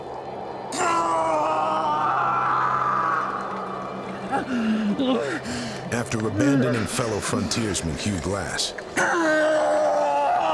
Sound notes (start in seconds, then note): 0.8 hugh screaming loudly; 9.0 hugh screaming, grunting